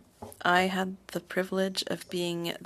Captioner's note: speaking French